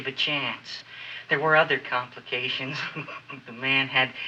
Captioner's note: chuckles